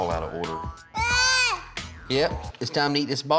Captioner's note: jabbering